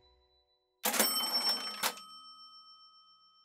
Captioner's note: cash register cha-ching